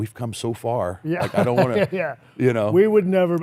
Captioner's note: laughs